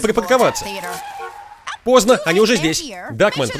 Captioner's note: tires screech, horn honks